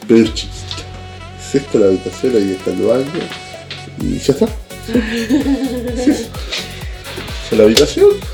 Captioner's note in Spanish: risas